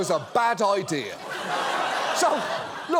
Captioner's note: audience laughs